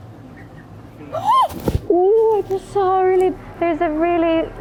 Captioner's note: gasps